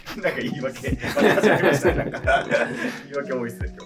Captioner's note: laughing